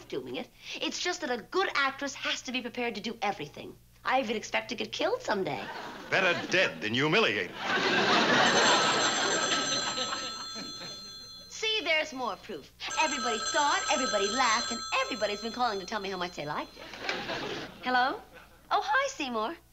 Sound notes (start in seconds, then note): 7.7 phone rings